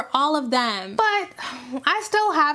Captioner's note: warily sighing